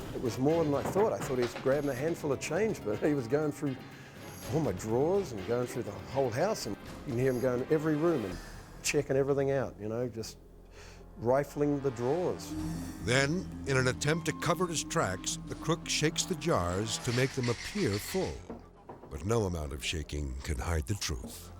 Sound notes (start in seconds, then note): 16.9 jars shaking; 20.4 edgy dramatic music